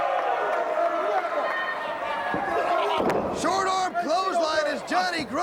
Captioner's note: crowd cheering